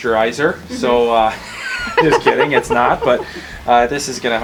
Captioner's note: laughter